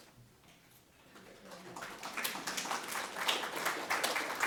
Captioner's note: audience clapping